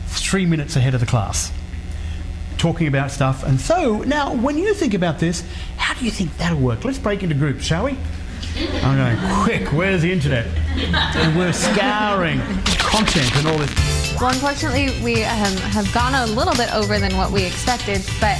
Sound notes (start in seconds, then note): 10.5 audience laughs; 12.6 upbeat music